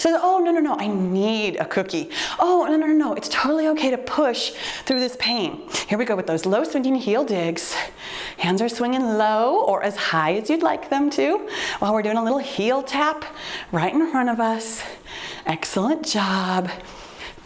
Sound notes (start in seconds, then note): 4.8 timer beeps